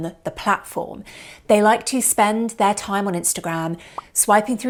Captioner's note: popping